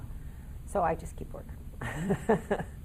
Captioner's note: laughing